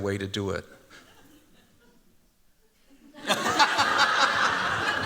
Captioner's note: laughter